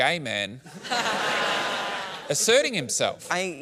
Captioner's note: laughter